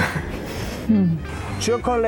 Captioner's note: both laughing